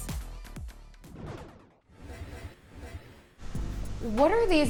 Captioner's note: scene whooshing